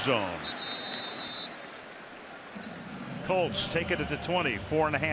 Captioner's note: whistle